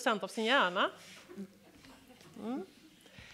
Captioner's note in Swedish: Skratt